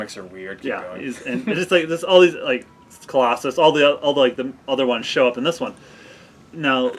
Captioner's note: stuttering